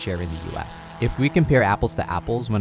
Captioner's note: vehicle revving